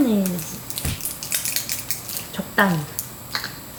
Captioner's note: sizzle